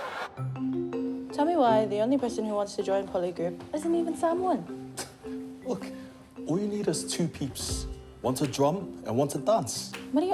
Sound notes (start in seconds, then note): 5.1 scoffs